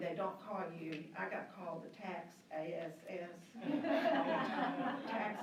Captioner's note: laughing